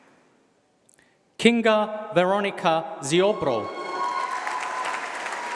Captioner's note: applause